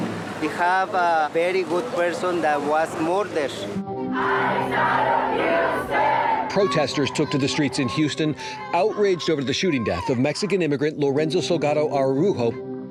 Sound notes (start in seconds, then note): 3.6 chanting